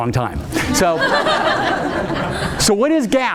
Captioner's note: audience laughing